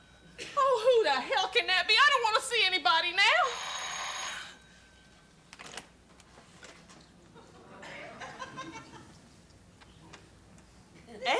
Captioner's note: laughter